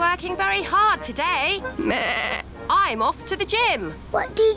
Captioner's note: bleats